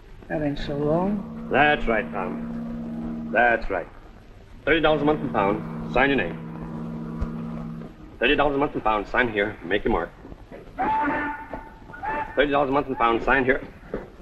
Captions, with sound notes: - That ain't so long. - That's right. $30 a month and found. Sign your name. $30 a month and found. Sign here or make your mark. [ BOAT WHISTLES ] $30 a month and found. Sign here...